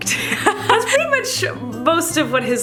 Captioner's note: laughs